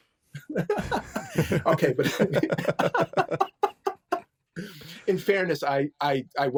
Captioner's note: laughing